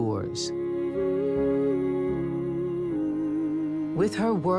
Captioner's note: woman humming